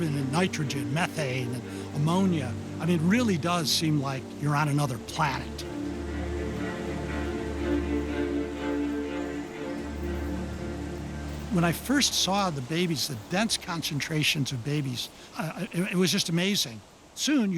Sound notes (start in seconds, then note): 7.4 bats squeaking